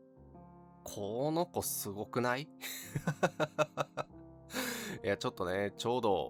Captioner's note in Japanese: 笑い; 息をのむ音